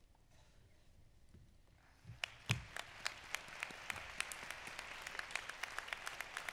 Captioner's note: applause